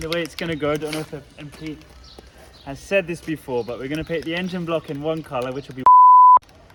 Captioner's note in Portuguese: beep